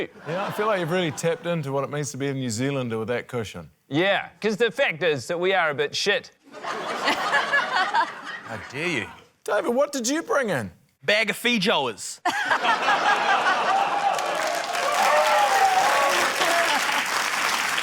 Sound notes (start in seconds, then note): 6.4 laughter; 12.2 laughter, applause